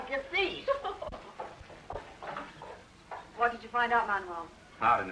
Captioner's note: laughs